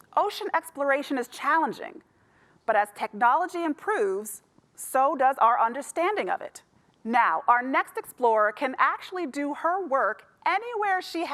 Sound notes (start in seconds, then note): none